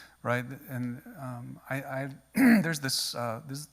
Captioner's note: clears throat